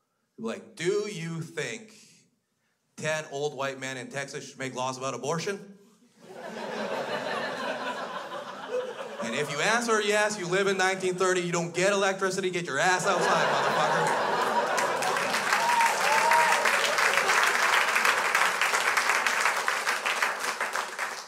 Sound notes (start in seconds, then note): 6.2 crowd laughs; 12.9 crowd laughs; 15.9 crowd applauds